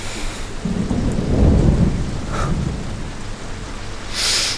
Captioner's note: thunder outside